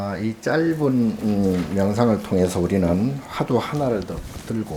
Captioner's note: speaking Korean